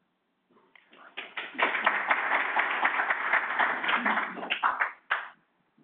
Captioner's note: audience applauding